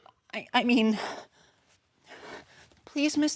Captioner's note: heavy breathing